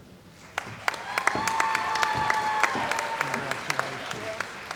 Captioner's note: applause